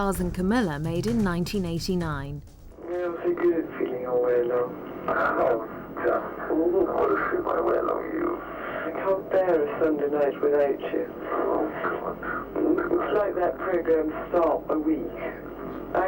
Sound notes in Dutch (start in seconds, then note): 2.9 man mompelt